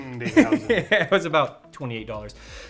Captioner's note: speaking in foreign language; laughing